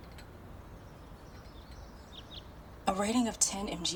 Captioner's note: birds twittering